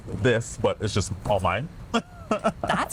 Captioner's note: laughs